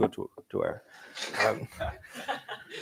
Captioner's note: laughter